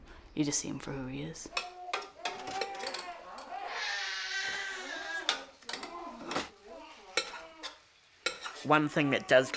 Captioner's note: baby crying